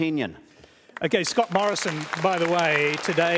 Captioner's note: applause